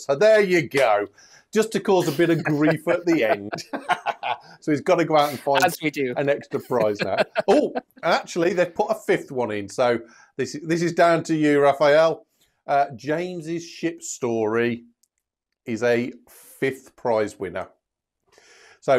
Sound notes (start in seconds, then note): 3.6 laughter